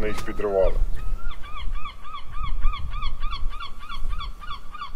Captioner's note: seagulls squawking sounds